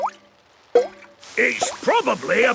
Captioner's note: water dripping